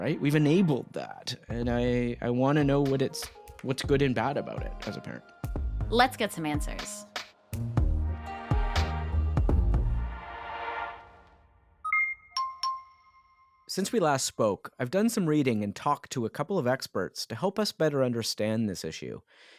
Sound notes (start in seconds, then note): 11.8 alert chiming